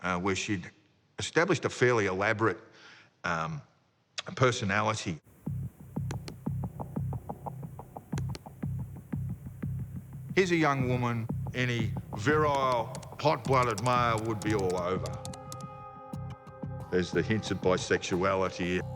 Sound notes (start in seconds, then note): 5.4 curious music; 5.4 computer mouse clicking